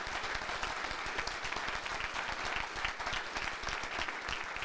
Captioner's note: audience applauding